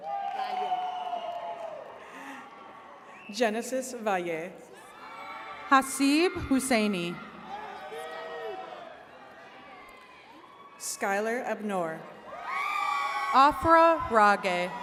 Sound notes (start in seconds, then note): 0.0 attendees cheering; 12.1 attendees cheering